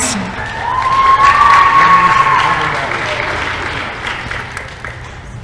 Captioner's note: applause